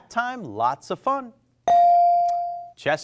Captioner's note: bell rings